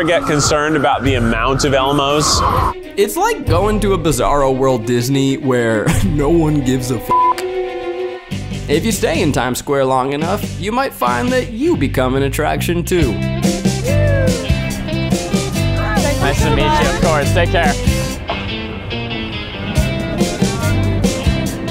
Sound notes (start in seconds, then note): 7.1 beep; 13.4 cheerful music; 18.8 cheerful music